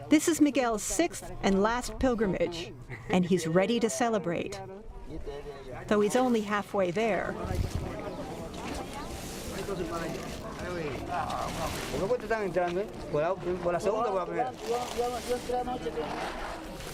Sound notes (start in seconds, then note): 8.2 speaking spanish